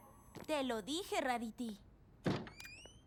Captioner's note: door opens